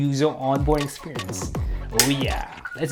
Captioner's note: clicking sound